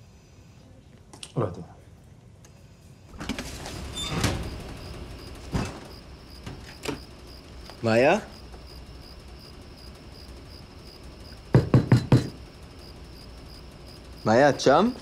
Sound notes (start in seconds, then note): 3.9 crickets chirping; 11.5 knocking